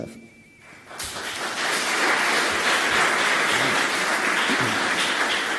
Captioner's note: audience applauds